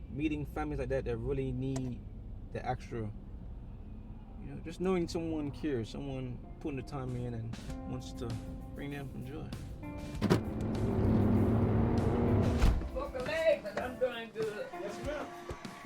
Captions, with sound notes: Meeting families like that, they really need the extra. Just knowing someone cares, someone putting their time in and wants to bring them some joy. [car doors shut] [car accelerating] [whoosh]